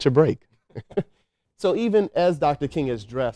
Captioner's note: both laughing